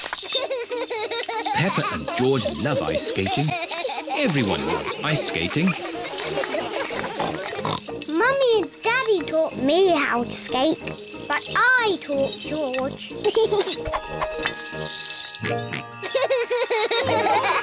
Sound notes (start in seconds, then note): 0.3 laughs; 5.6 snorts; 13.3 giggles; 15.5 snorts and giggles